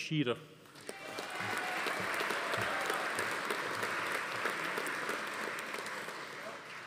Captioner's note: attendees cheering; audience applauding